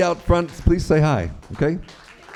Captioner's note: applause